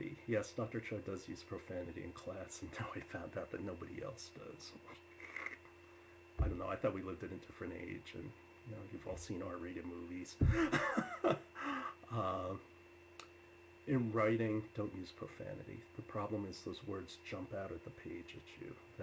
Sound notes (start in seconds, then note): 10.4 laughs